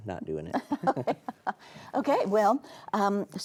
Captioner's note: both laughing